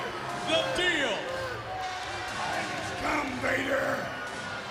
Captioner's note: crowd chatter